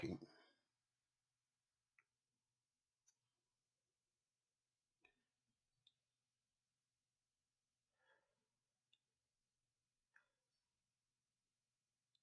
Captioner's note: silence